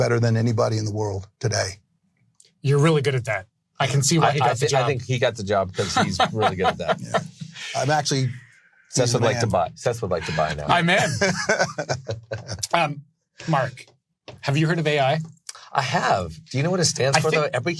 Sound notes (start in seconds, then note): 5.6 laughs; 9.9 laughing